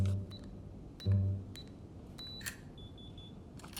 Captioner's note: buttons beep